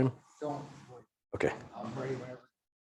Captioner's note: speaking faintly